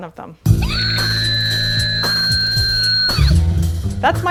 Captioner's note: scream